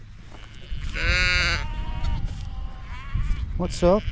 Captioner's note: sheep bleats